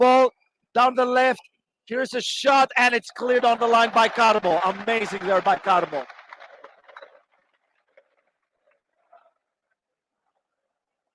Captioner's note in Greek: Χειροκρότημα